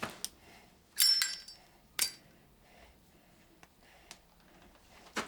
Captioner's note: lighter clicking